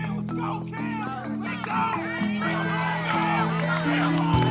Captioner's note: cheering